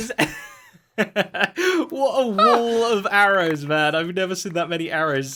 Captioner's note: laughs